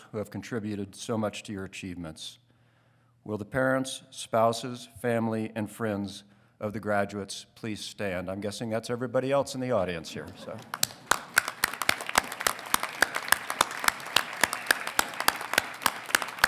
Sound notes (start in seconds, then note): 10.4 congregation clapping